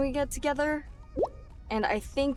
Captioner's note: text bubble pops